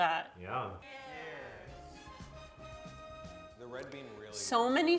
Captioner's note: group toasting